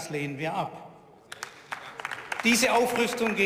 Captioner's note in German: Beifall